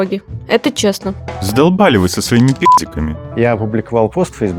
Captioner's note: beep!